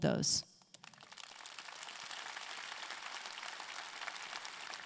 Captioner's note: audience clapping